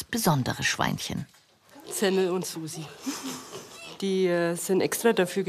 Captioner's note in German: lacht